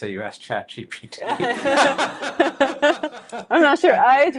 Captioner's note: all laughing